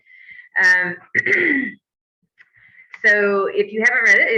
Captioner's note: clears throat